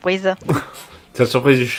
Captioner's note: laugh